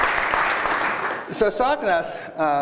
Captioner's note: applause